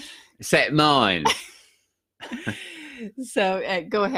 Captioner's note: both laughing